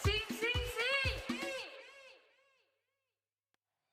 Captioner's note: speaking in Foreign Language; echoing sound; silence